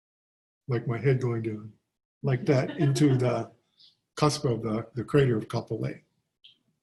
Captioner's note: laughter